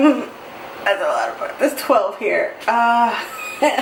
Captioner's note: laughs in fear